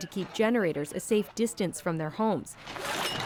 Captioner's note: speaking French